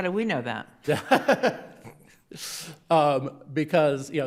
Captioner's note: laughing